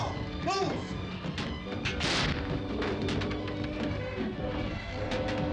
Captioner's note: wood clattering